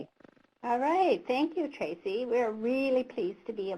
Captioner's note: voiceover